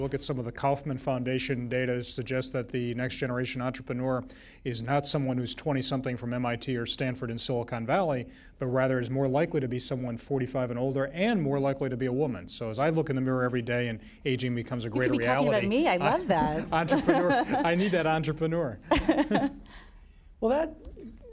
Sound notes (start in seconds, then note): 18.1 laughs